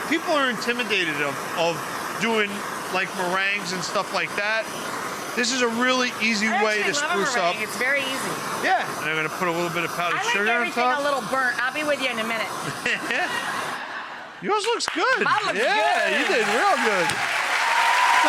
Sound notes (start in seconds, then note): 12.6 laughs; 14.6 applause